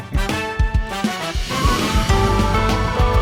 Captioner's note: jazzy horns music; whoosh skidding; jazzy band music